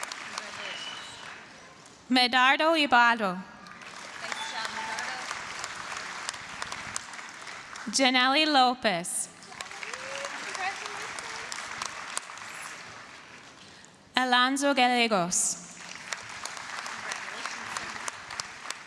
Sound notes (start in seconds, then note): 0.0 applause; 3.6 applause, cheering; 9.3 applause; 15.6 applause